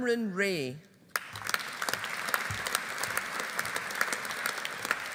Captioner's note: audience applauding